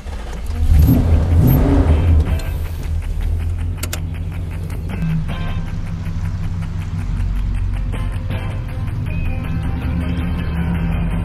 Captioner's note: engine sounds & playing